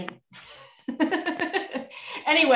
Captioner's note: chuckles